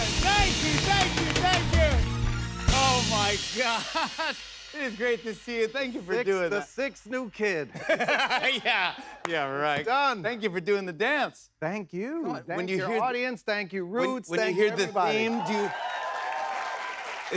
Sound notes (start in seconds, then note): 7.7 laughing; 14.8 cheers and applause